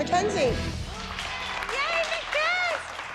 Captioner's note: cheering